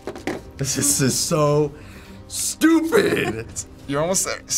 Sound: laughing

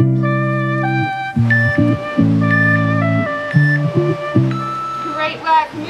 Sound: waves whooshing; timer beeping

